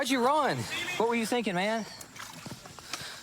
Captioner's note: splashing